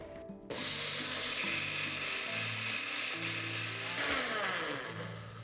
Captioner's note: grinder motor running